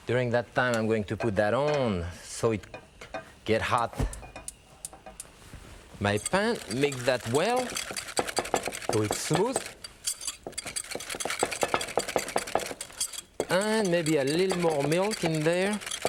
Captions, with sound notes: During that time I'm going to put that on, so it get hot, (gas burner igniting) my pan. Mix that well, until it's smooth. (whisk whipping) And maybe a little more milk, in there.